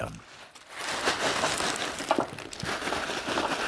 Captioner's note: rustling, rattling